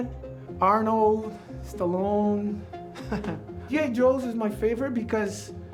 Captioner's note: chuckles